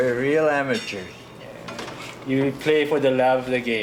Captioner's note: none